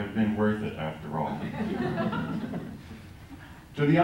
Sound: laughter

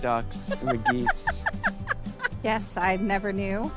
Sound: laughing

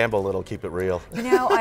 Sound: laughs

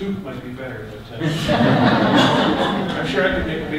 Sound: audience laughter

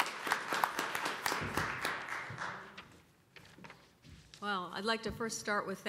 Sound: applause

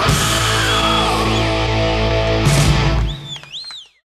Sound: crowd cheers and whistles

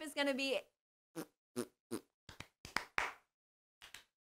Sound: clapping

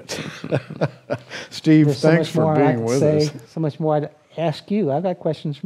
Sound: chuckles

